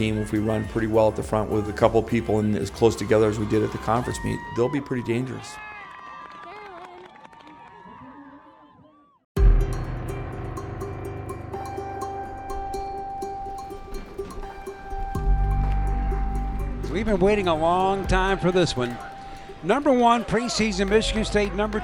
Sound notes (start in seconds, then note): 6.1 crowd cheering; 9.6 upbeat music